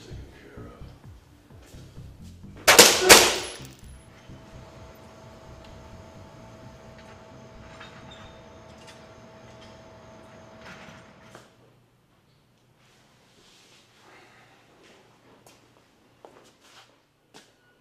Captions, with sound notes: Let's get this taken care of. (gun firing) (man groaning)